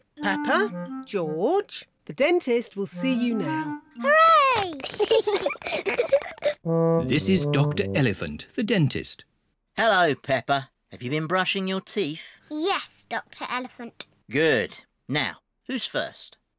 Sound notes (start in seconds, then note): 4.8 both giggle